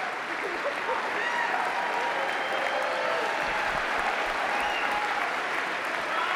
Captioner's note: audience cheers enthusiastically